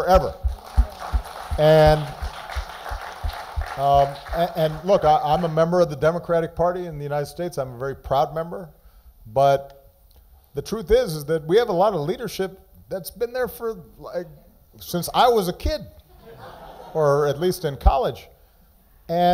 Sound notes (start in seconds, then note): 6.3 applause